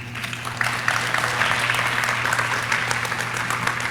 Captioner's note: audience clapping